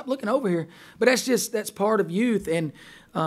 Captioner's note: voiceover